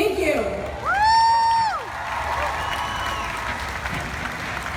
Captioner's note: crowd cheers